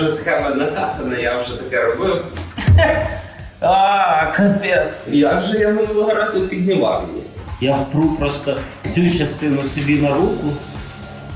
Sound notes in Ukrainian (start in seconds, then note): 2.5 Смішок